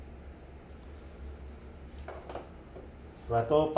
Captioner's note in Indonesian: suara suntikan ditaruh